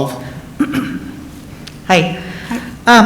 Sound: clears throat

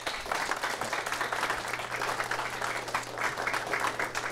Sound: applause

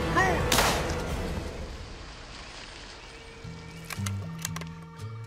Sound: gun shot

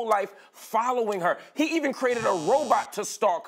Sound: buzzer sounds

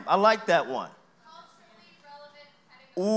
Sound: indistinct audience chatter

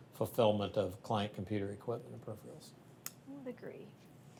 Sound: none

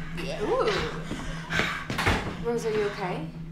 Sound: Rosemary panting

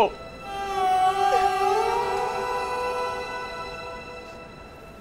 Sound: crying

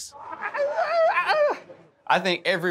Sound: grunts

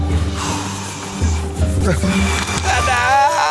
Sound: blowing

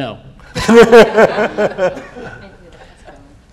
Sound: laughs

